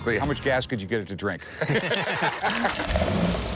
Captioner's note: laughing